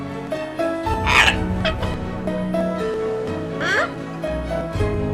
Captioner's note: bird cawing